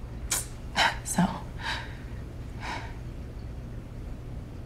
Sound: exhales

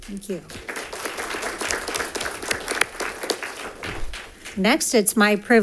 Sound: congregation claps

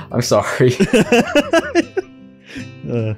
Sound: cackles

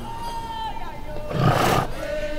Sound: roar

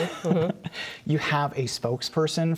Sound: laughter

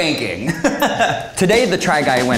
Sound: giggling

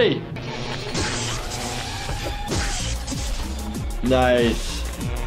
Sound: body thumps smashing

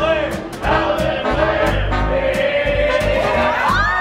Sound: crowd chants; crowd cheering

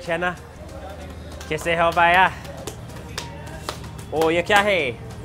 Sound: speaks in foreign language

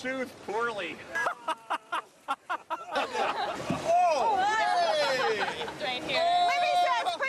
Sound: laughter; laughter

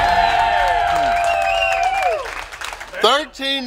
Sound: cheering & Clapping

